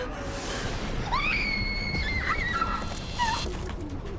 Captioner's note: Maria screams